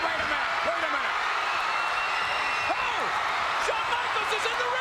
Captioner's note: crowd cheers